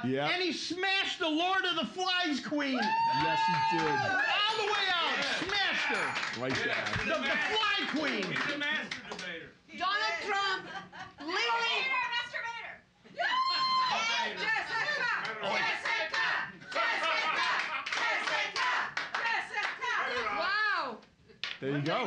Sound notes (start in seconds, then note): 2.7 cheers and applause; 5.9 bell softly chimes; 8.2 cheers and applause; 13.1 woman cheering; 15.0 audience chanting, "Jessica"